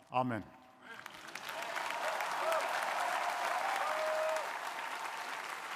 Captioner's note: crowd applauding